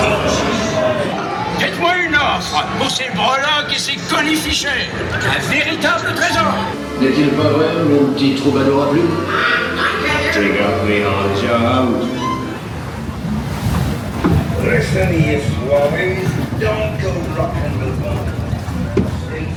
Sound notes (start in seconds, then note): 7.5 parrot squawks; 7.5 speaking in French